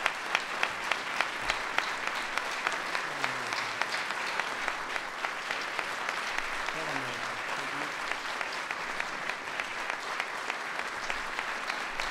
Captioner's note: applause